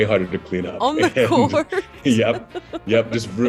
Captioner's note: laughing